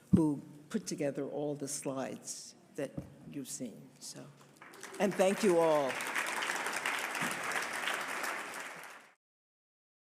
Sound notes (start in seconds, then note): 4.6 audience applauding